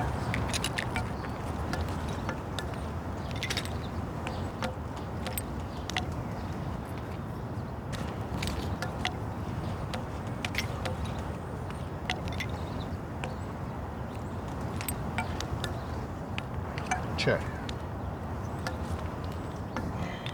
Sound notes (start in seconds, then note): 0.3 tinkering of chess pieces; 19.6 tinkering of chess pieces